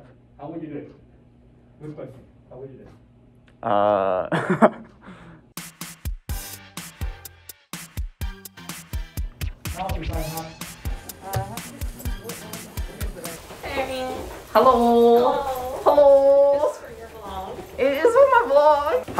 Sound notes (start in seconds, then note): 3.7 laugh